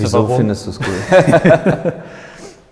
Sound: laughing

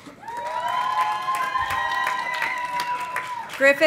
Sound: audience applauding; audience cheering

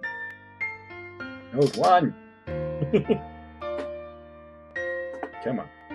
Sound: chuckles

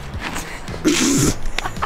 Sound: laughs

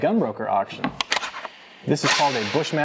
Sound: gun charging click

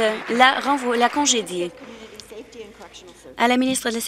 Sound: some Applause

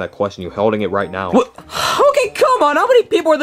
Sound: sighs

